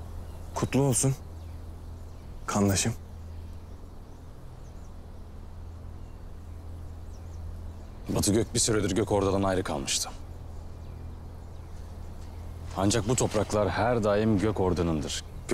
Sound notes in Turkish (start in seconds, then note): none